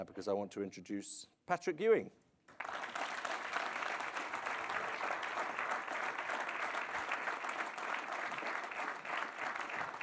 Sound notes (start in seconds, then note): 2.5 audience applauding